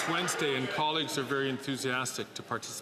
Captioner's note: some Applause